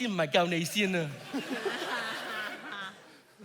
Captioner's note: audience laughs